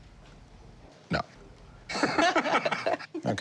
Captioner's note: laughter